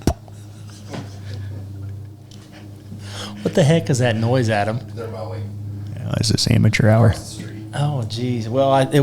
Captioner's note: neighbors are mowing